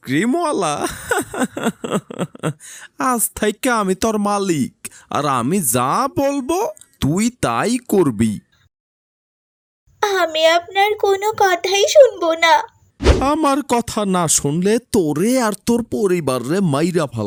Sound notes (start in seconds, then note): 1.0 loud laughter